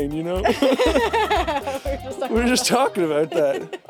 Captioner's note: Jacksepticeye and Courtney laughing